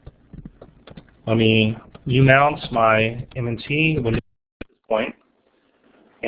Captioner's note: distorted speech